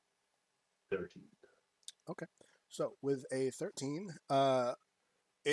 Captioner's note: sucks teeth